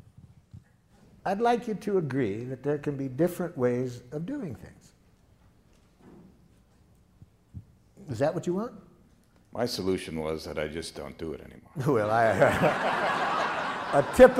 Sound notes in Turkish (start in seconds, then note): 12.2 Gülüşmeler